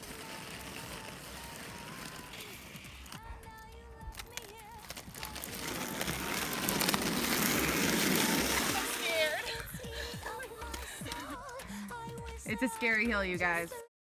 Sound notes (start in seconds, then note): 4.0 wheels rolling across pavement; 10.3 laughing